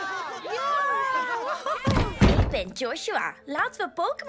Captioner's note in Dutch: deur opent